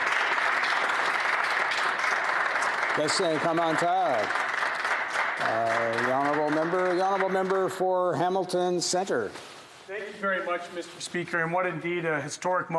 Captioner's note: applause